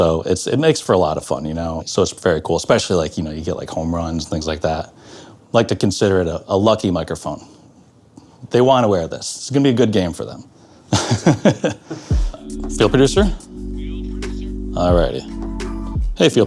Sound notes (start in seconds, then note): 10.9 laughs